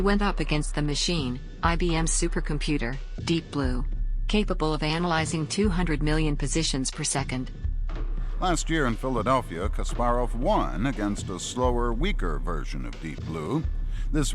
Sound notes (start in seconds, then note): 8.4 soundbite of archived recording